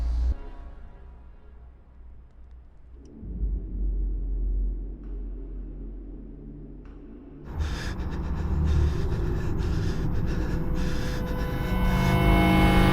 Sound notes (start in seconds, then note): 7.4 both panting